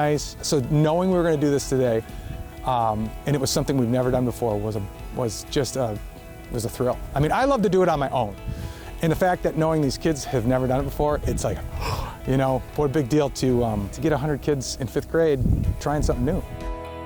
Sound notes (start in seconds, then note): 11.6 gasps